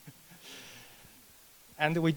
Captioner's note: laughs